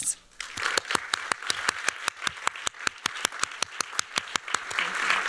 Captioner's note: applause